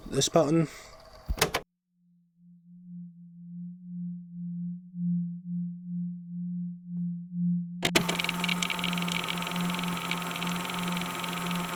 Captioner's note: mumbles; fx: tape recorder stops, music fades in